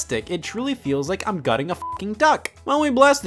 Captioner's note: beep